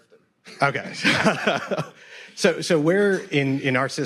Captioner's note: laughs